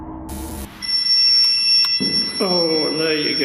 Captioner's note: devices beeping